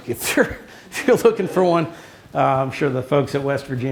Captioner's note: chuckles